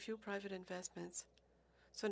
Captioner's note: speaking French